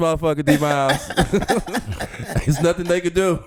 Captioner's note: laughing